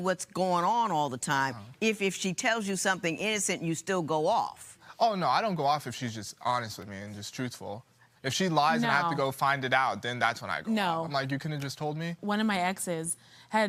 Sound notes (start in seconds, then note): none